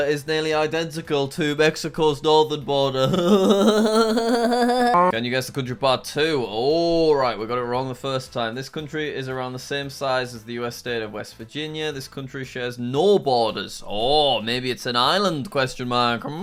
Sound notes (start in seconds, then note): 3.0 laughing mockingly